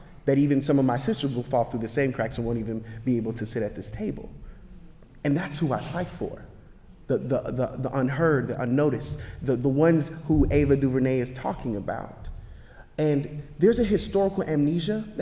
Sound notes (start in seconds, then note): none